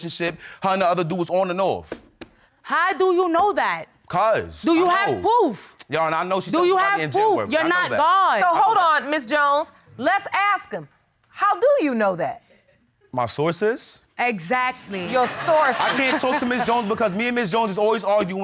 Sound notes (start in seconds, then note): 15.0 all laughing